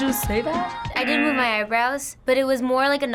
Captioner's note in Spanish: zumbador